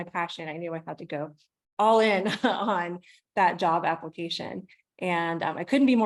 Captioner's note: laughs